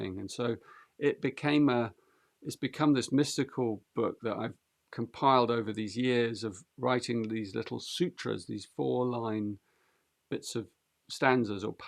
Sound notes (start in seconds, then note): none